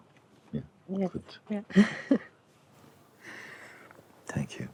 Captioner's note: laughs